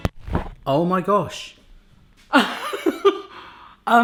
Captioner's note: laughs